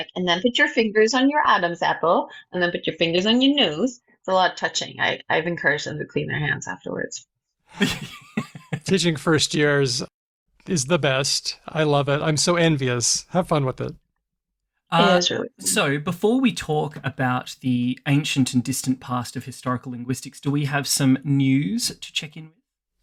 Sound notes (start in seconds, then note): 7.8 laughs